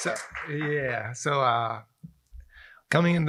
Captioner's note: applause